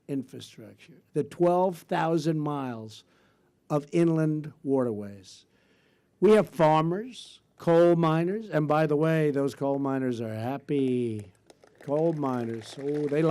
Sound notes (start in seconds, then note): 10.7 applause